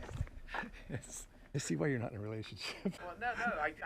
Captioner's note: laughs